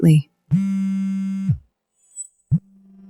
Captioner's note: phone buzzing